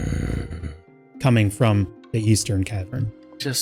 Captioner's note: long low snoring growl